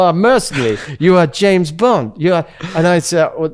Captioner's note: laughs